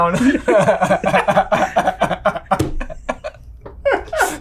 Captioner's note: everyone laughing